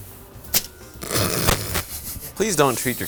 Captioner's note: laughs